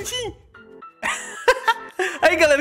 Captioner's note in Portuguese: Risos